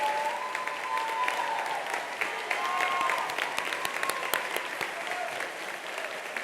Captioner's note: attendees applauding continues